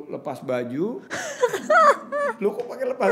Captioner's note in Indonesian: tertawa